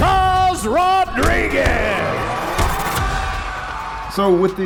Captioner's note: film reel rewinding; kick and punch thudding